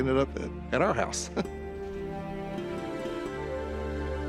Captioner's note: chuckles